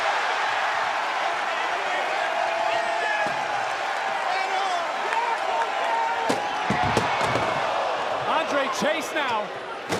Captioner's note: crowd cheers